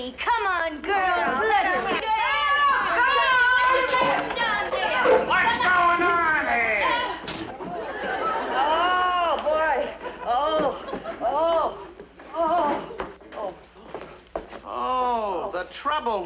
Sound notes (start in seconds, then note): 3.4 prisoners mumble; 7.5 audience laughs; 9.0 Mrs. Stevens moans